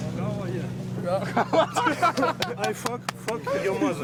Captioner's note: man laughing; man applauding